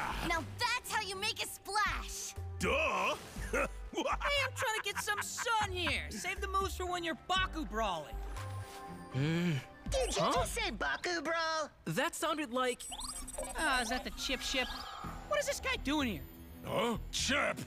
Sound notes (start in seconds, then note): 3.9 chuckling; 9.2 grumbling; 12.8 beeping